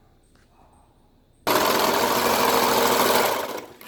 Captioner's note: sews Piece Together on Sewing Machine